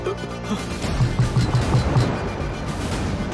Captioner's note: Pounding on door